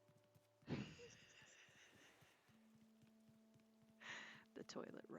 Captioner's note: more laugh wheezes